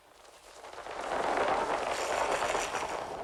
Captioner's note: fluttering